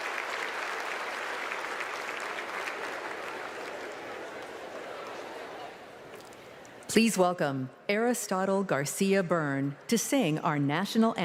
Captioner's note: applause